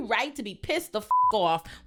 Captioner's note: beep